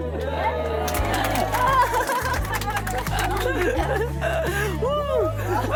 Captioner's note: laughing and Villagers Clapping